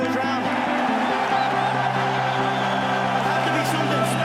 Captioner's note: crowd cheering